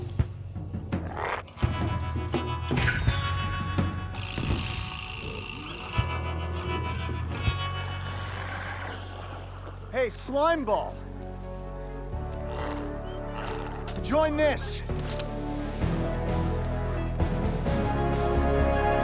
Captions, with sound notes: (intense music continues) (Smelly growls) (glowzies growling) - Hey slime ball, join this. (dramatic music)